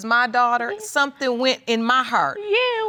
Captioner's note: crying